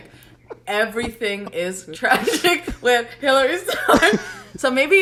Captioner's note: laughs